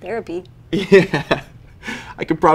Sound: chuckling

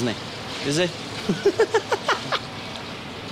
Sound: laughing

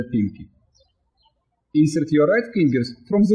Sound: birds chirping

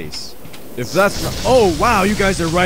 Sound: zap

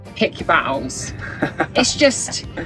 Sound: laughs

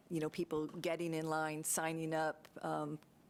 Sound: none

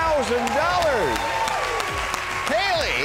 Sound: cheers and applause

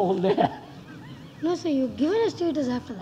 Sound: laughs

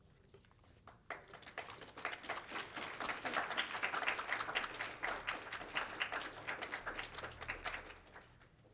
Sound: applause

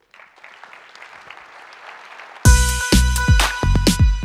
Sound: applause

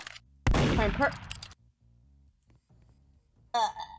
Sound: gunshot

